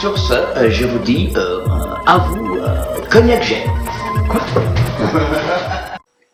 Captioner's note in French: rires